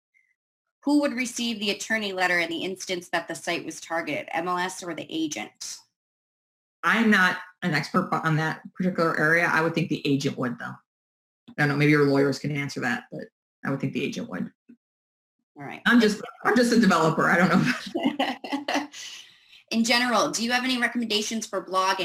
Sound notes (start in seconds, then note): 17.3 laughs